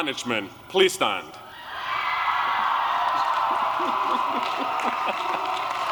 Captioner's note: applause